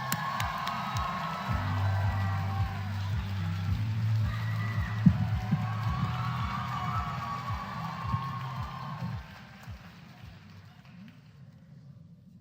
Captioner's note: applause